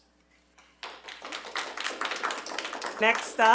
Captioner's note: attendees clapping